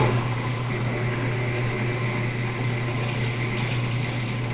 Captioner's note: machine humming